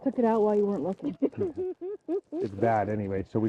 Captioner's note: chuckles